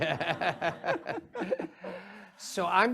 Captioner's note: audience laughs